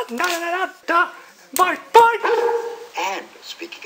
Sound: dog Barks

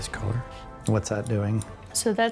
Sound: scissors snipping

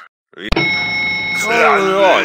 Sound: elevator ding

